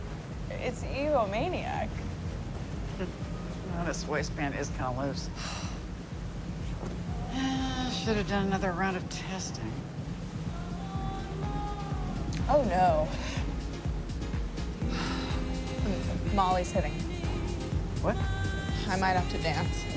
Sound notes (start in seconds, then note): 2.8 scoff; 5.2 sigh